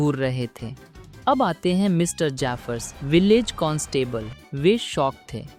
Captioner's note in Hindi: सायरन की आवाज़